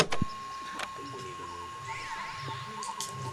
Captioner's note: film scratching; static hissing; VCR clunking; people chattering softly